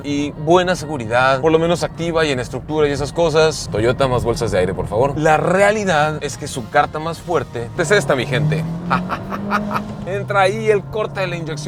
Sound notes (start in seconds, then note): 8.4 engine roaring; 8.9 laughter